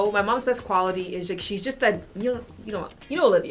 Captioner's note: none